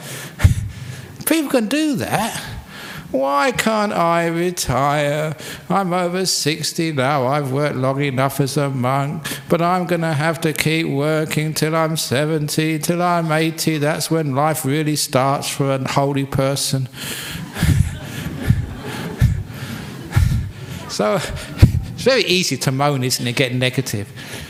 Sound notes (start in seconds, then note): 17.1 laughs